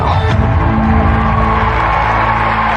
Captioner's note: cheering and applause